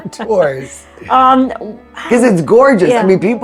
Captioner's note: laughs